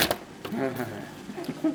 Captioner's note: chuckling